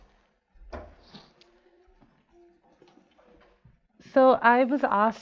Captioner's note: clattering